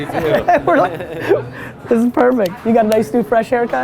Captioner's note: laughs